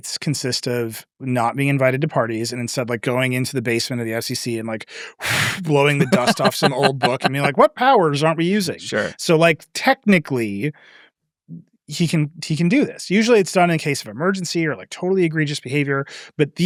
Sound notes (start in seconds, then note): 5.1 blows